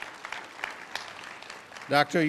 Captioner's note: applause